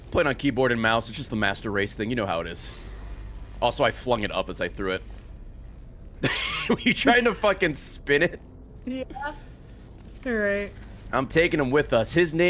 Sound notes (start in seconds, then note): 6.2 laughs